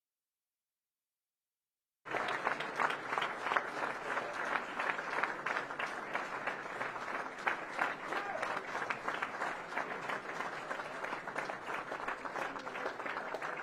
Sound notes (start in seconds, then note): 2.0 applause